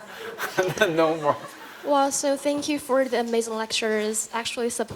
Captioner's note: laughter